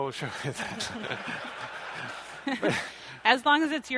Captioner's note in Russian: смех